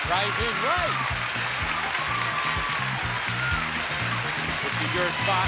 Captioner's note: audience cheering